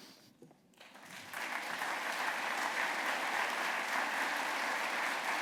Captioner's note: applause